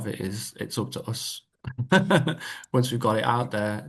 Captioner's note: laughter